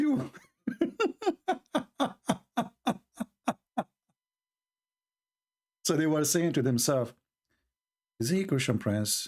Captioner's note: Ketawa